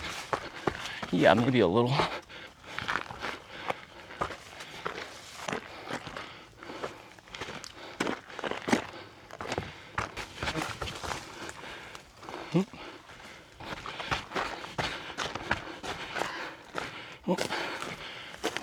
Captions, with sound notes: Yeah, maybe a little. (footsteps)